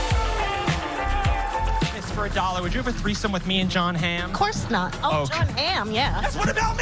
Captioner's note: applause